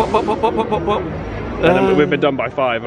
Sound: vocalizing

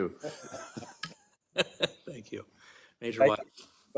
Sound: laugh

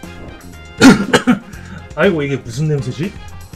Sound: cough cough

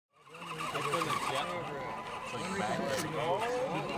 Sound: motor squealing

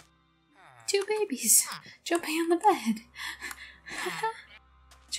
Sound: laughter

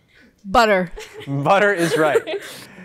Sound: laughing

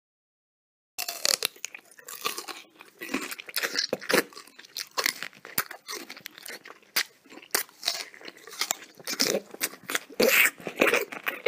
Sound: sound of man chewing

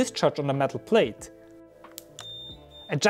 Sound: beep Sound

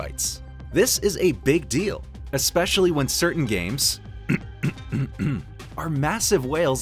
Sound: cough cough

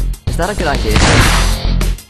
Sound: bang

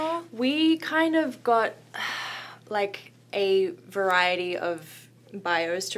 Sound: exhales deeply

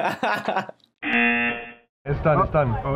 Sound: laughs; buzzer rings

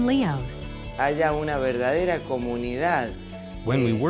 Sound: speaking spanish

